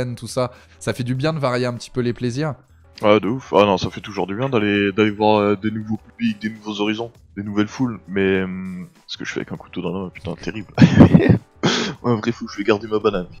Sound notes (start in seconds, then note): 10.7 laugh